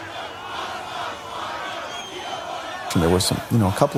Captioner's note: crowd yelling